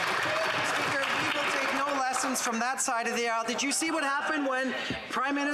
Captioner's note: applause